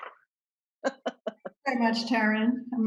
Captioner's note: laughs